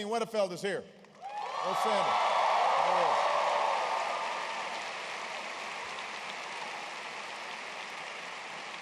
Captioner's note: applause